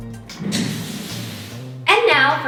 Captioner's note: chair wheels roll